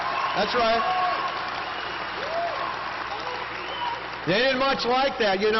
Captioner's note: applause